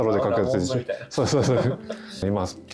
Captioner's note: laughs